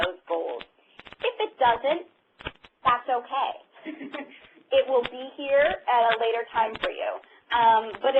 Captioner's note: laughter